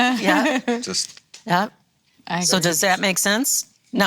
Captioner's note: snaps